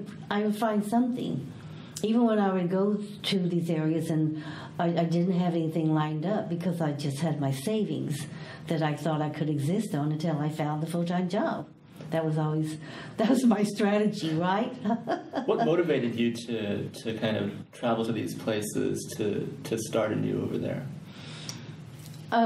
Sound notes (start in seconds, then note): 14.8 laughs